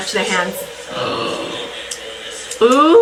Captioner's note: gasps